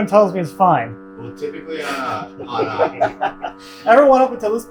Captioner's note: group laughing